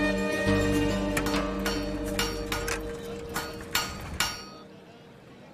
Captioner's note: metallic clinking